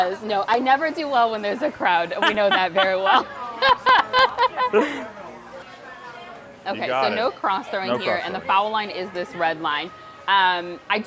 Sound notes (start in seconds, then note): 2.1 laughing